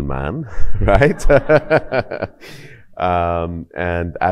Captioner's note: laughing